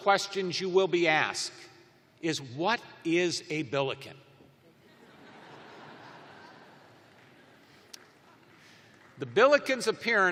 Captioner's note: laughter